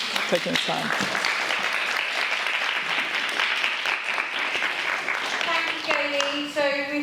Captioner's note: applause